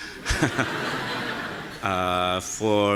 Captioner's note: audience laughing